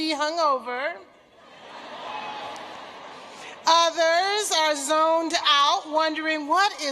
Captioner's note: laughter